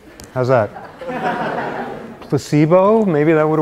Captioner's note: laughter